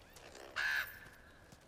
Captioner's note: caw